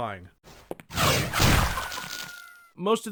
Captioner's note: swoosh! splat!; chicken crows